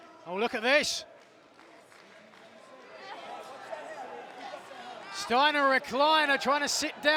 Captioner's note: applause